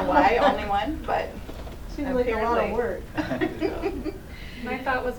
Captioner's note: laughter